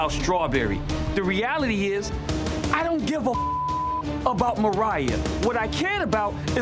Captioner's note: beep